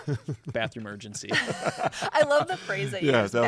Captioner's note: laughter